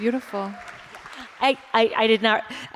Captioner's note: applause